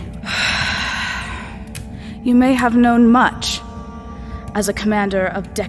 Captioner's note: deep breath